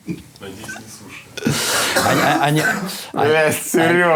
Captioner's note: and person outside the shot laugh; Dud laughs